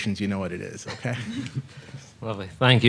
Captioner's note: many chuckling